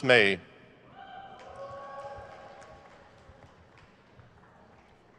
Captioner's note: crowd cheers